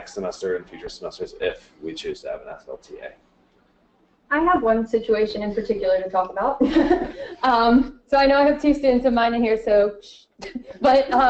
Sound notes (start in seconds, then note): 6.6 laughter